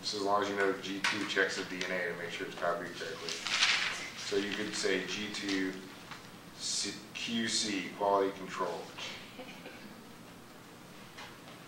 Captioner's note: laughter